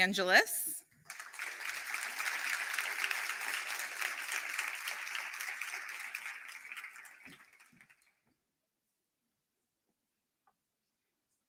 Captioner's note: applause